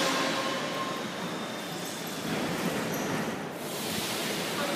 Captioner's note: arrival of train at the station; opening doors